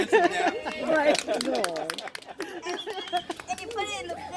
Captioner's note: laughter and applause